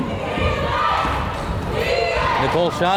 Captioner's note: crowd chanting defense